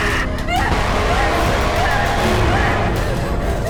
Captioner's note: dramatic music; Abby shouts